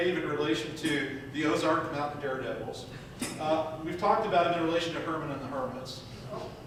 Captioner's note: none